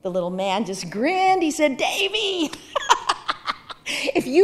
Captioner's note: laughing